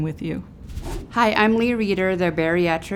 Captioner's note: wind whooshing